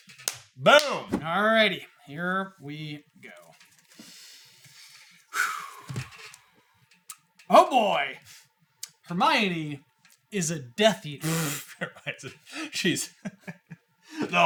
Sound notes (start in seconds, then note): 7.5 inhales; 11.2 chuckles